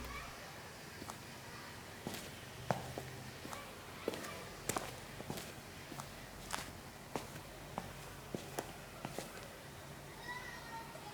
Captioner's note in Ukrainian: звуки епічєских шагов